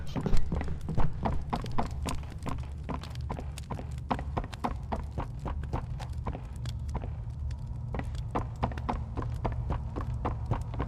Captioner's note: footsteps